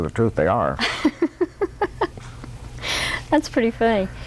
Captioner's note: laughter